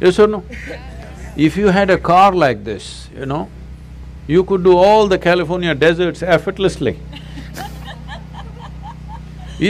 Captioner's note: laughter; 笑聲